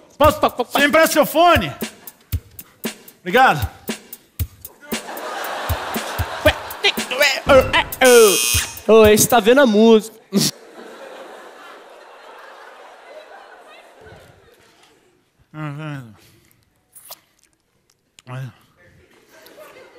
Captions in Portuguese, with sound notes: [música eletrônica] Me empresta seu fone? Obrigado. [campainha] Esse tá vendo a música!